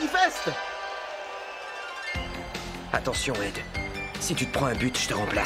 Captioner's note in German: beifall